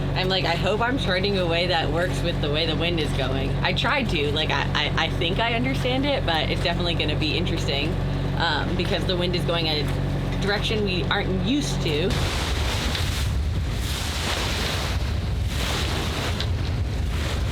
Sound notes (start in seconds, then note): 11.6 water splashing